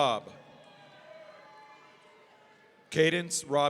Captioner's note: audience cheering